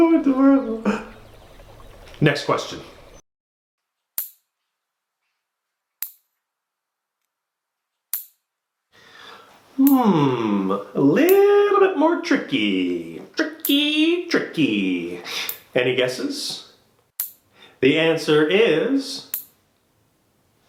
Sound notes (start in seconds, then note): 0.0 makes meowing sounds and laughs; 4.1 metallic, clipping sounds